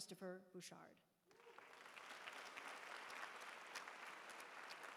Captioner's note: applause